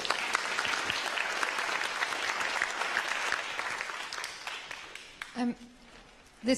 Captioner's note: applause